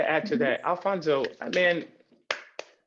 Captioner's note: claps